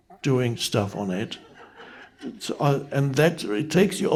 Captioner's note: audience members laughing